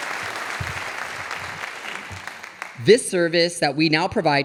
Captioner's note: audience applauding